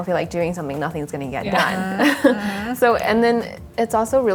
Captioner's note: everyone laughs